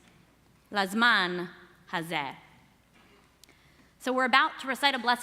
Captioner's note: speaking hebrew